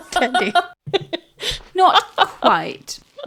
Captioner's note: laughing